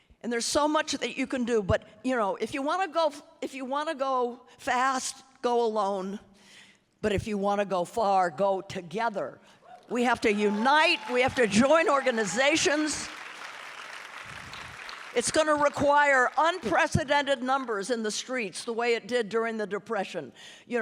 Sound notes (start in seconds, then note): 13.4 audience applauding